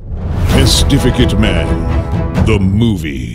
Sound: deep announcer voice

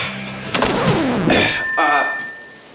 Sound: record scratches

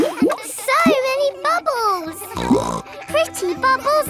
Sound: snorts

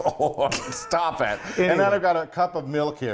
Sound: laugh

